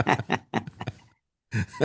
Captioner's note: laughing